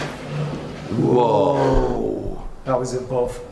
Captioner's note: whooshing; gasps